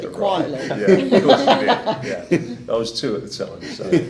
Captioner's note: laughing